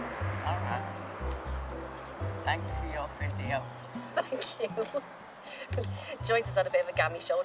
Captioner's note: laughing